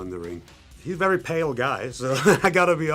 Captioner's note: laughs